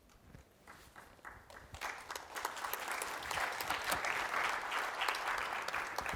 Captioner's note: applause